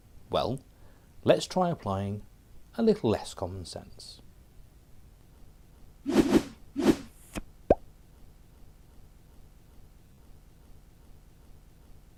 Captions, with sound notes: Well, let's try applying... a little Less Common Sense. [sfx:whoosh] [sfx:pop]